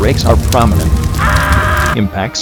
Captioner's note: screaming